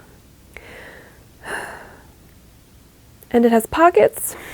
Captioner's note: heavy sigh